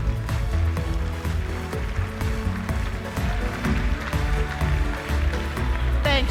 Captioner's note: applause